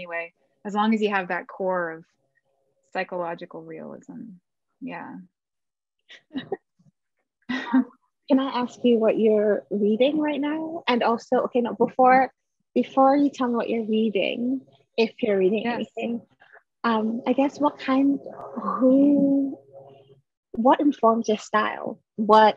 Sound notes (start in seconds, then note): 6.1 chuckles